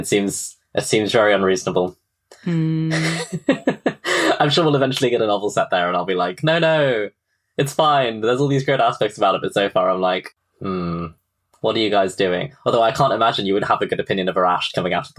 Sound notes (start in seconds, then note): 6.3 laughs; 9.4 laughs